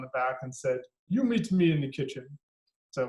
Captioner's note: with an accent